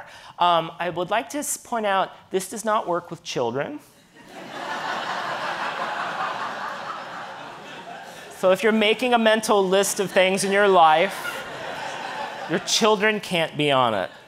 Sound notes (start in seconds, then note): 4.2 audience laughing